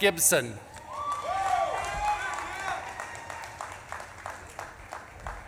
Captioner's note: audience claps and cheers